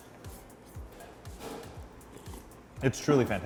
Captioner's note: slurping